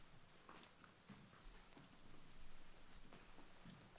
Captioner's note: none